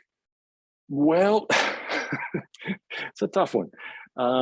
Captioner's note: laughs